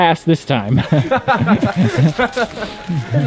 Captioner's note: all laugh